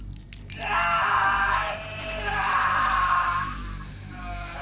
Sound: Sean screams

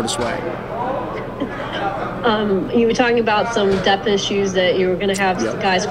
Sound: laughs

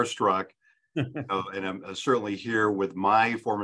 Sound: laughs

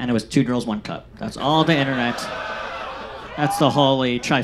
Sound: audience laughs

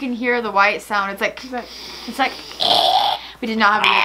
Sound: hisses; grunts

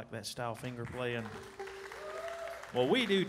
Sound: audience applauding

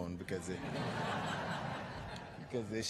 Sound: laughter

